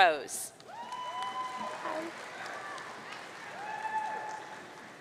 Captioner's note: audience cheering